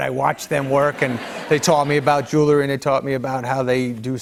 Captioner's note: laughter